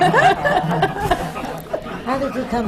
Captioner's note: laughter